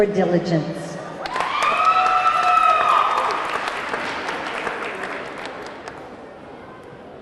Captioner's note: audience cheering; audience clapping